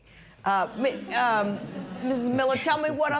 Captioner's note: laughter